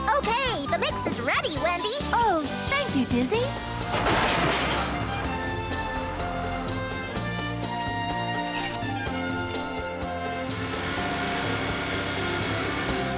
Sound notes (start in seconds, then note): 3.6 metal Clunking; 10.3 trimmer Whirring